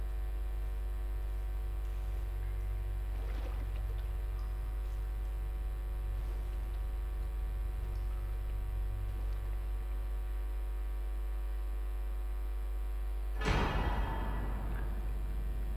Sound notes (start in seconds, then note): none